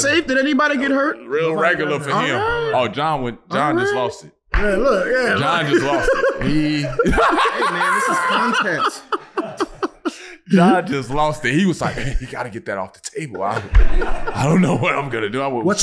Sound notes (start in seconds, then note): 5.1 group laughing; 5.3 laughing; 9.0 group continues laughing